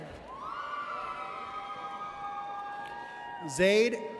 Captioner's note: audience cheers